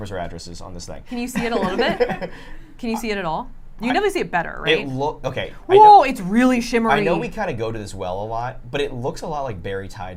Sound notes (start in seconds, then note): 3.6 laughs